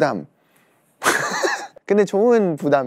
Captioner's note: laughs